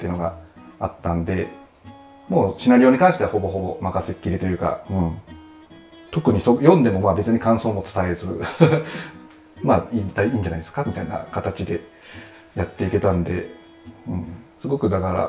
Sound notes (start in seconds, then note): 8.4 laughing